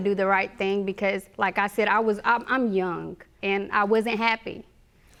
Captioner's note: stammering